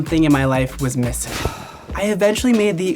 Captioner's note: sighing